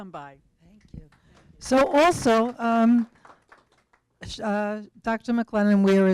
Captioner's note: applause